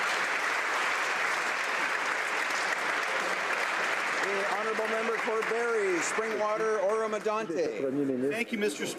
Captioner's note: applause